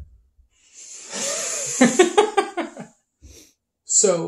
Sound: both laugh

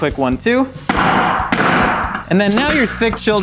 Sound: hammer banging

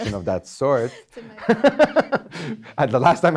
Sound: laughing

